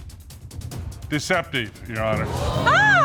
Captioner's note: audience gasps